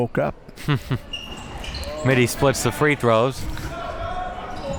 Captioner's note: laughs